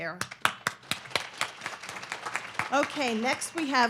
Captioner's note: audience clapping